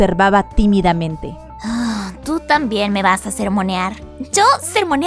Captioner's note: sigh